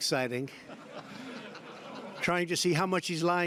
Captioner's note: laughter